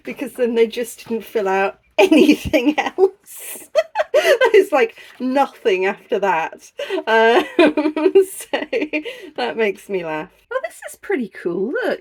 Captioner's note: laughing